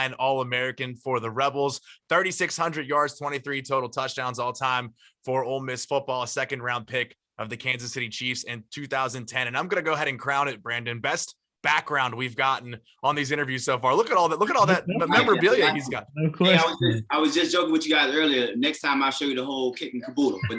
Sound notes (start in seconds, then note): 16.6 chatter